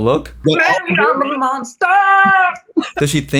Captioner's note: laughs